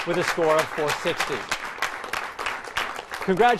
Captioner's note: applause